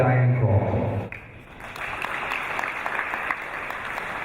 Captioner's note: applause